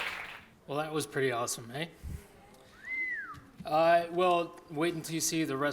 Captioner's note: whistling